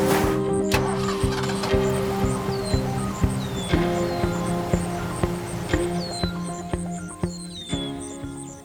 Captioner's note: engine starting, birds chirping